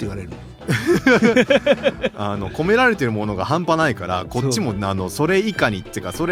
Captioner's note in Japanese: 笑い